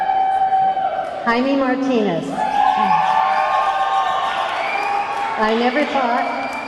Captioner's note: audience clamoring